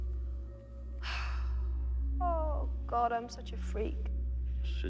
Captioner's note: loudly sighs